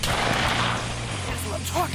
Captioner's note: gunshot